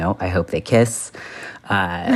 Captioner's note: laughter